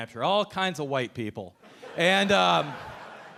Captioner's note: audience laughing